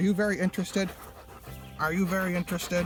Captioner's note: panting